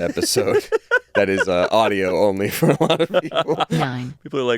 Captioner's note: laughs